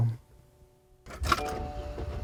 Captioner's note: clanging; engine rumbling